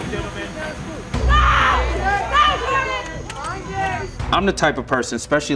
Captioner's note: screams